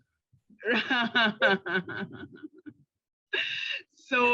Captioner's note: chuckling